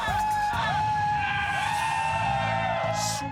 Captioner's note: crowd cheering